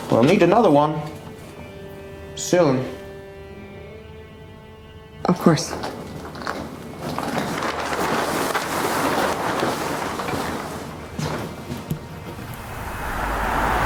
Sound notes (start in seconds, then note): 7.5 plastic tarp rustles; 12.4 steam hissing; 13.1 traffic hums and whooshes